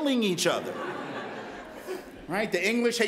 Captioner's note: laughter